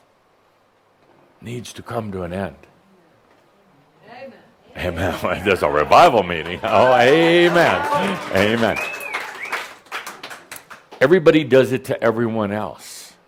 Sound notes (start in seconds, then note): 2.8 someone shouts “Amen!”; 6.4 someone whistles and applause